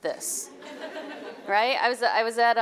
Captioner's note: audience laughing